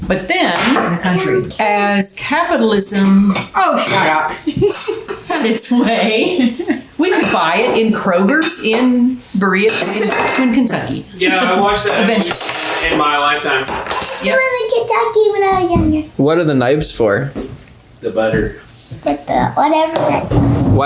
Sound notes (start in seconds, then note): 5.6 laughter; 5.7 laughing; 13.6 knife clatters on table